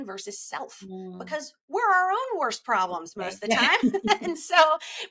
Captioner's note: both laughing